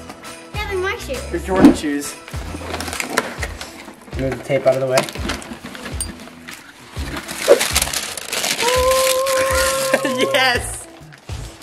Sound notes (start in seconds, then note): 2.9 box crinkling; 7.8 paper rustling; 8.8 vocal harmonizing